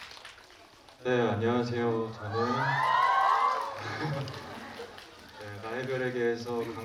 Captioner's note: cheering